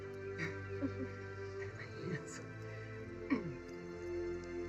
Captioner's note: laughs